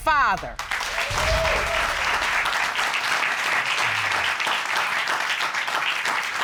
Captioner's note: audience applauding